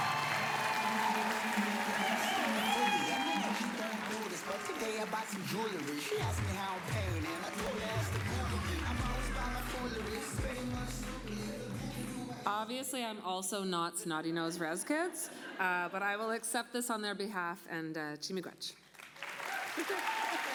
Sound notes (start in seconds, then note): 5.5 applause